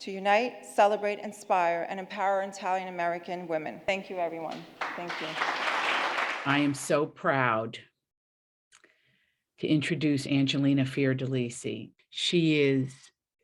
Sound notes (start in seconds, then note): 4.5 applauding